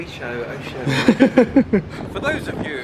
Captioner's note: both laughing